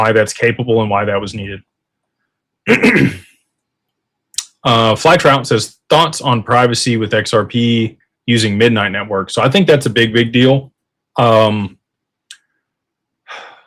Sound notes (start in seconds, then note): 2.6 clears throat